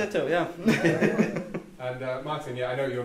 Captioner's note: all chuckle